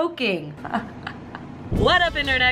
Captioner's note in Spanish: risa